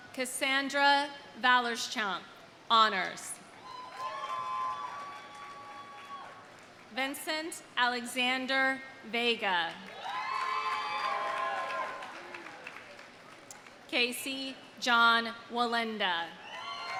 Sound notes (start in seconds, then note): 3.6 audience cheering; 3.7 audience applauding; 9.8 audience applauding; 9.9 audience cheering